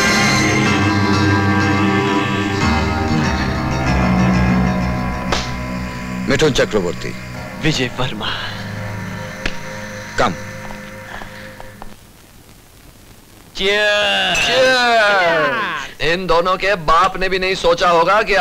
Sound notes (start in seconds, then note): 14.3 glass clinks